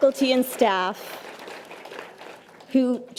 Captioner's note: audience applause